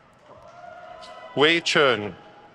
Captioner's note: crowd cheers